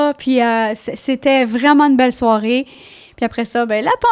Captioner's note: in french